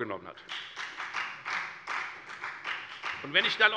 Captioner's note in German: Beifall bei der FDP